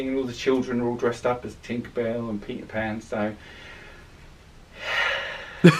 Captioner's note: sighs